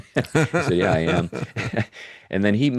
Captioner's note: laughing